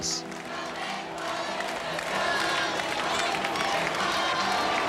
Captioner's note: crowd cheering